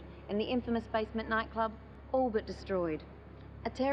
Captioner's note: none